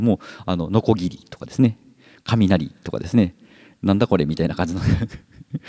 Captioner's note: chuckles